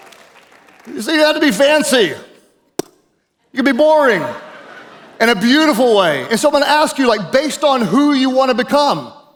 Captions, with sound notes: Who said you had to be fancy? (lips pop) You be boring. In a beautiful way. And so I'm gonna ask you, like, based on who you wanna become